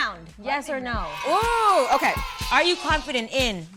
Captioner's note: cheering & music